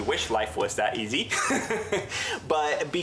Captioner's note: laughs